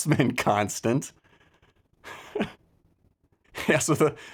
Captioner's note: laughs